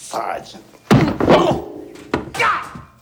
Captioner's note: heavy blow